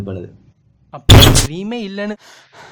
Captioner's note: door breaks open